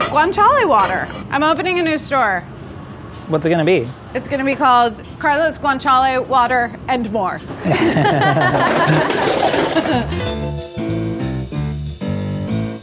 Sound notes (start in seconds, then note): 7.6 all laughing; 9.3 jazzy music